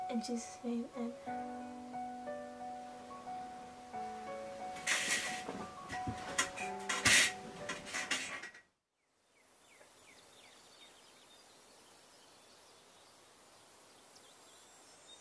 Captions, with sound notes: in His name, amen. (soft music) (birds chirping)